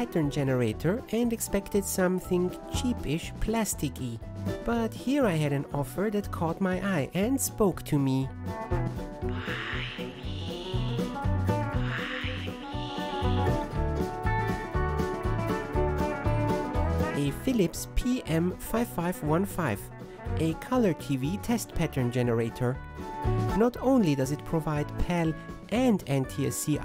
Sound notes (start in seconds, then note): 11.8 ghost voice